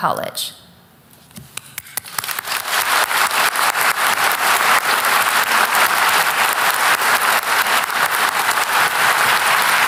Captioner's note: applause